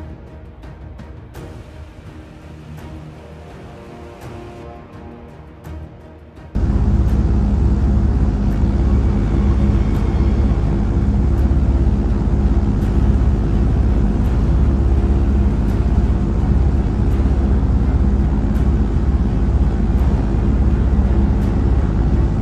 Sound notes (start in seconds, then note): 6.5 airplane engine sound